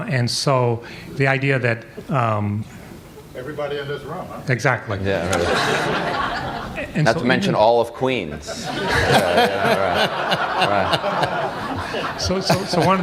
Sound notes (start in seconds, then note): 5.2 laughter; 8.2 laughter